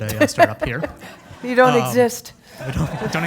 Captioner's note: laugh